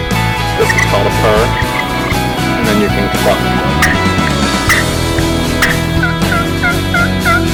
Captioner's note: inspirational music plays; turkey call; turkey calls continue